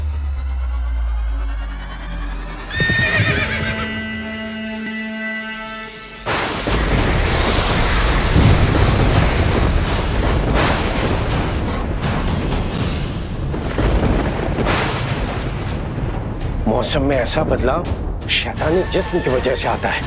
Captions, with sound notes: [horse neighing] [thundering] The weather changes like this because of the diabolical being.